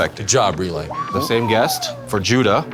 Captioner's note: whirring